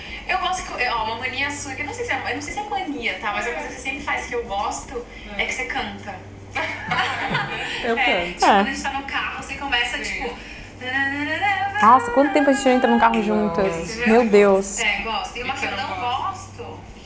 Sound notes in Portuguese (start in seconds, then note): 6.6 risos; 10.8 cantarolando